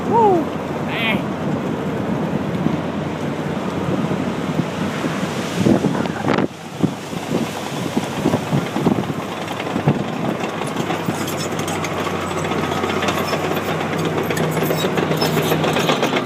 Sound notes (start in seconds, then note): 3.8 wind rushing; 9.3 mechanical creaking